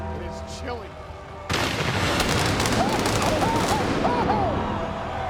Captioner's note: lightning crackling; dramatic music continues